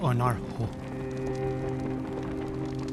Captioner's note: fires crackling